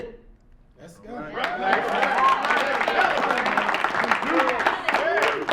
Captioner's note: audience applauds